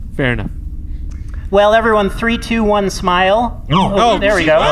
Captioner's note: sounds of mild surprise and consternation from the crew